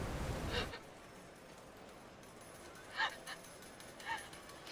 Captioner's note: Candace crying